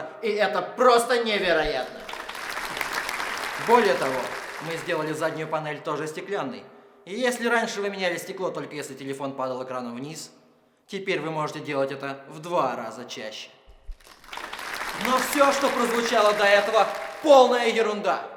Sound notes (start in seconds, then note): 1.7 applause; 13.9 applause